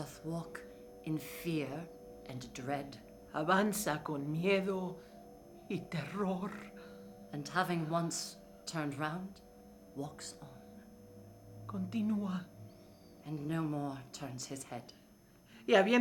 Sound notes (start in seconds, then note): 3.5 speaking in foreign language; 11.8 speaking in foreign language; 15.7 speaking in foreign language